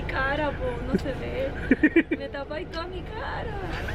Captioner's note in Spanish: risas